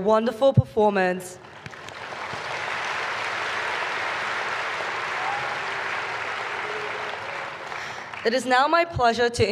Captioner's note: applause